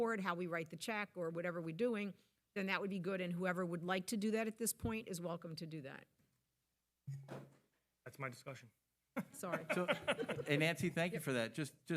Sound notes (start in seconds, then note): 9.2 laughing